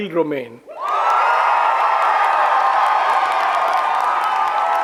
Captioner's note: audience cheers